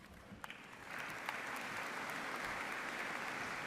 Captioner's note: applause